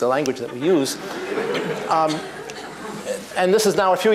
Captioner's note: laughter